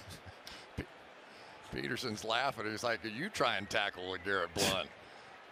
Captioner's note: laughs